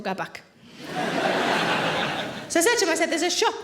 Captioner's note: audience laughing